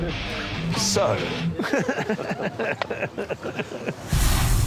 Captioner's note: rock music plays; laughs